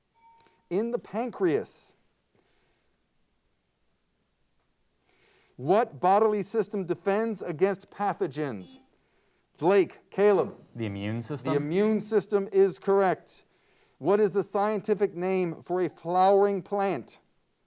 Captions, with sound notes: (timer bell dings) In the pancreas. What bodily system defends against pathogens? (buzzer beeps) Lake, Caleb? - The immune system? - The immune system is correct. What is the scientific name for a flowering plant?